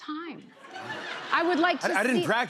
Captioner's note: laughter